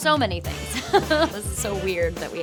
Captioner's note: Shailene chuckling